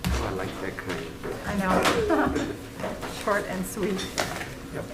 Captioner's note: people chattering